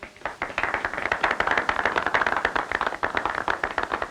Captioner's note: crowd clapping